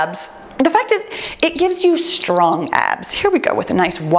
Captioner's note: timer beeps